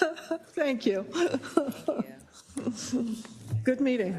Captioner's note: laugh